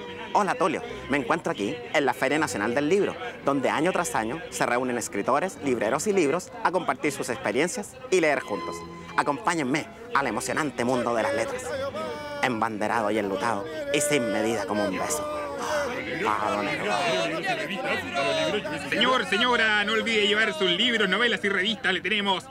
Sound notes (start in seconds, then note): 13.6 gasp; 17.3 merchants yelling